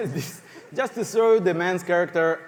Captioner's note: laughter